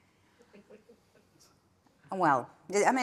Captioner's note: attendee chuckling